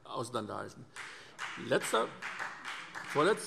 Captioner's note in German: Beifall SPD und vereinzelt BÜNDNIS 90/DIE GRÜNEN